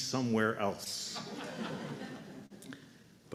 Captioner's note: laughter